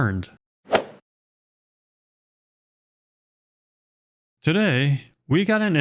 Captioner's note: golf swing sound effect